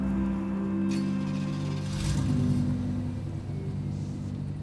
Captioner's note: engine starts